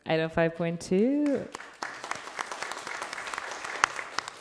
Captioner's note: applause